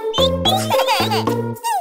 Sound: laughs

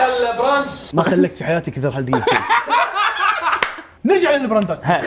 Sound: laughing

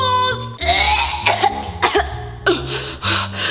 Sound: gagging

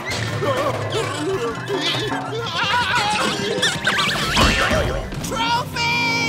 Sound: yelling

